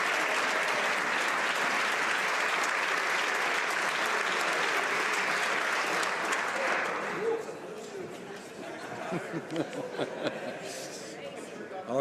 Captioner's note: applause